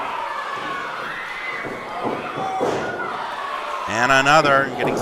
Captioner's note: audience cheering